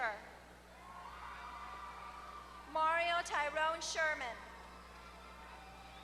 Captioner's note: applause